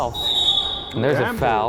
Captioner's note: whistle blowing